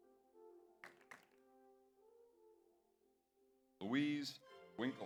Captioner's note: audience applauds